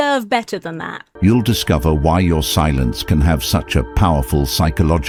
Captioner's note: AI Voice